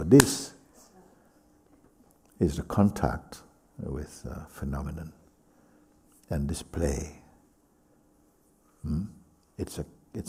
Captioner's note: claps